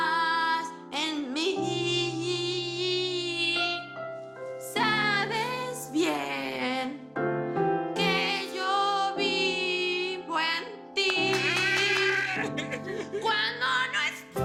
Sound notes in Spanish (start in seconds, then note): 11.1 Aplausos; 11.4 Exclamaciones